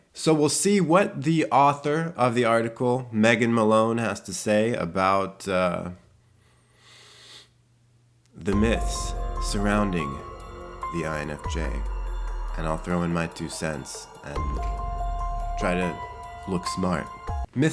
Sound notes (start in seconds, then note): 6.3 inhales deeply; 10.6 spooky instrumental music